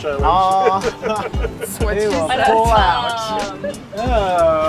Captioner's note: people laugh